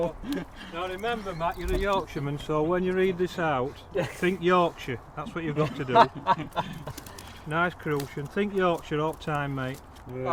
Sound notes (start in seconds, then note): 5.2 laughing